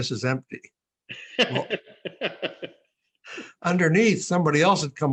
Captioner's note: laughing